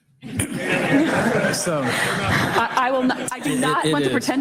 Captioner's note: audience laughing